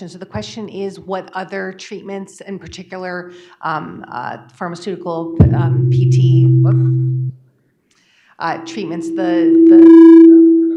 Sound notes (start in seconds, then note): 7.2 sound glitches